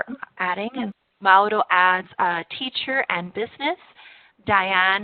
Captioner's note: spanish